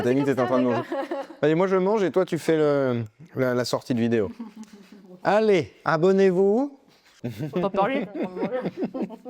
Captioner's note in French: rires